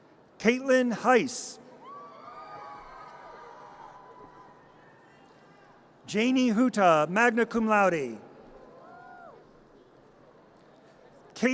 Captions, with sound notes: Kaitlin Heis. (audience cheers and applause) Janie Huta, magna cum laude. (audience cheers)